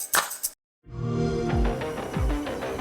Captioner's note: xbox sound; intense music